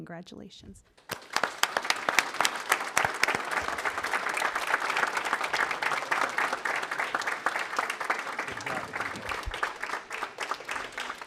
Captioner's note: applause